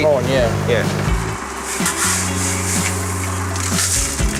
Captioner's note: rustling ice